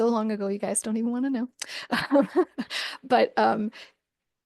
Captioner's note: laughs